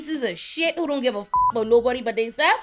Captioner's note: beep